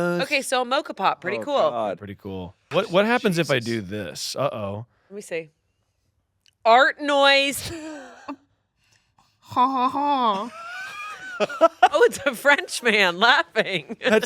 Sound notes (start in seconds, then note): 8.2 laughs; 10.2 imitates laughing; 10.4 laughing